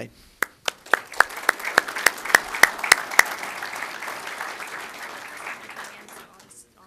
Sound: applause

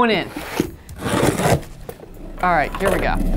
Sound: knife slicing

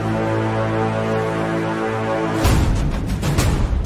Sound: war Horn

